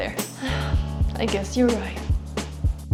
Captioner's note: sigh